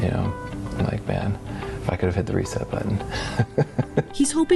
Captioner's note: laughs